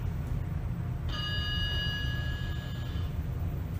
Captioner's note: ding